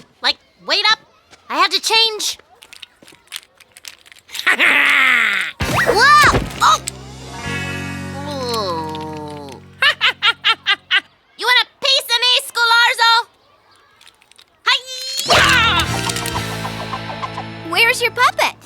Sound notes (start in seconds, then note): 4.3 laughing; 6.3 grunting; 10.5 laughing